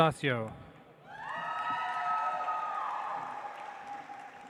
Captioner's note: audience applauds